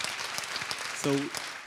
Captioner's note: applause